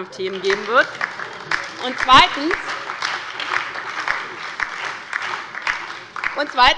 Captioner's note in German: Beifall bei der LINKEN und der SPD